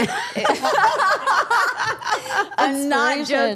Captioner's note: all laughing